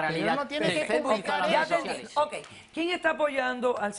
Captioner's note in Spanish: Hablan al unísono